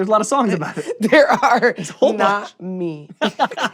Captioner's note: laughs